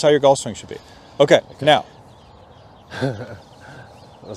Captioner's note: laugh